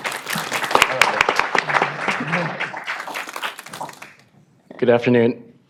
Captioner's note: applause